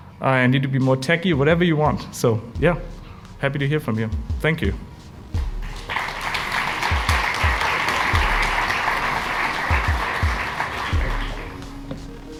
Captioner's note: WILD Applause and cheering